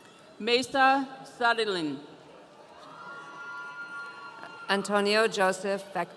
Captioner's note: audience cheering